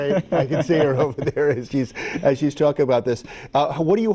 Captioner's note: both laugh